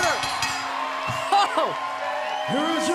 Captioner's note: bell ringing